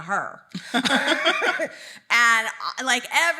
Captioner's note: both laughing